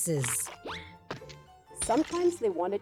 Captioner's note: slipping, glass shattering